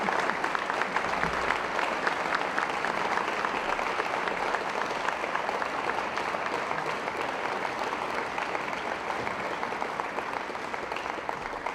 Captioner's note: applause